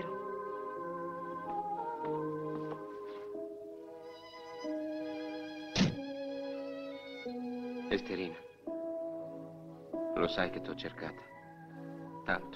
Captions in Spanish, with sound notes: (MÚSICA DE FONDO) (DESLIZAMIENTO DE LA PUERTA) Esterina, ¿sabes que te he estado buscando? Mucho.